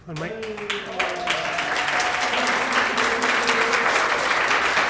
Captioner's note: applause